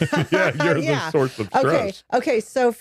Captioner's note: laughing